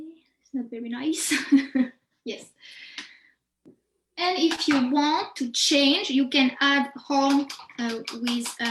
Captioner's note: chuckles